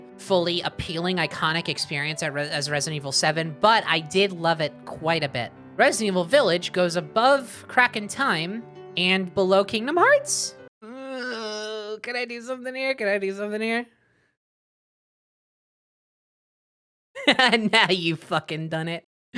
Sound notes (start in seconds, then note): 10.9 groan; 17.2 laughing